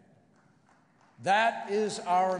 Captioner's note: applause